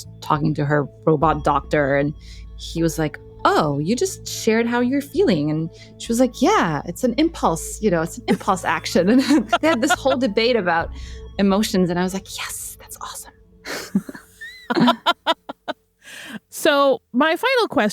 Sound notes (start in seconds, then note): 8.3 laughs; 13.6 laughs